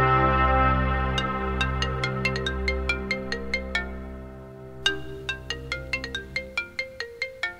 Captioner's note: Phone ringing